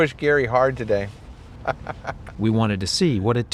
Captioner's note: laughs